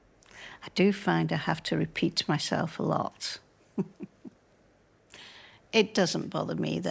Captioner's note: laughs